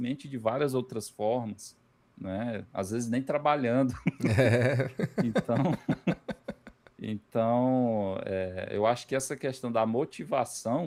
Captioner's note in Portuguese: risadas